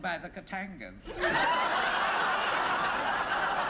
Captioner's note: laughter